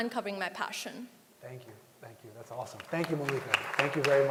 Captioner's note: applause